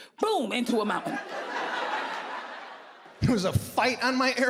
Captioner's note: audience laughing